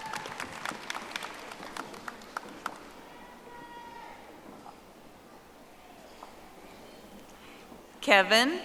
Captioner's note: audience applauding